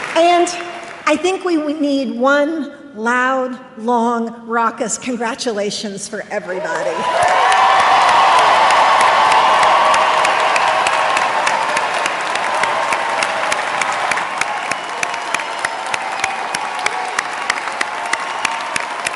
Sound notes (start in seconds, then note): 6.9 applause